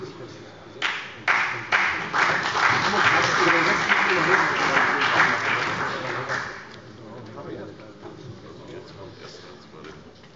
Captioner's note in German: Beifall bei der CDU und dem BÜNDNIS 90/DIE GRÜNEN